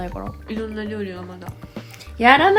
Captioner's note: mog mog